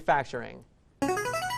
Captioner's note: answer bell